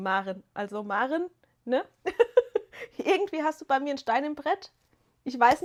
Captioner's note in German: gelächter